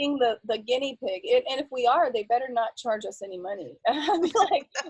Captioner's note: laughs